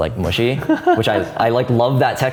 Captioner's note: laughing